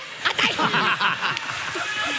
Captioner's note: laughter